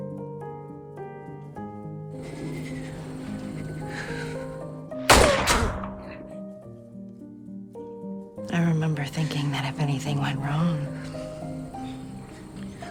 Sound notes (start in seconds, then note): 5.0 gunshot; 8.6 voiceover